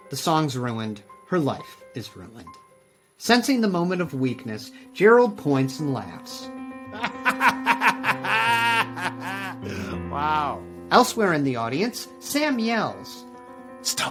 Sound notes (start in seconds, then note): 6.9 laughs